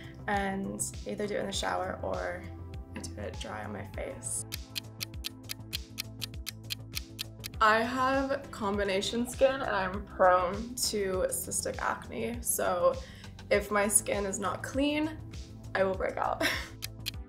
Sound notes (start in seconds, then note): 4.4 clock ticking; 4.7 gentle upbeat music; 16.4 laughs; 16.7 clock ticking